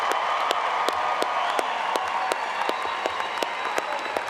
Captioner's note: applause